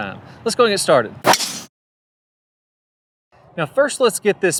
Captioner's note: air swishing